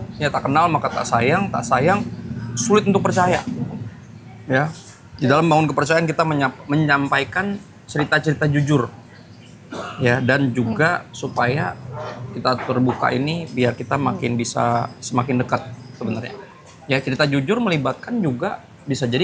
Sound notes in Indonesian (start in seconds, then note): 9.6 berdehem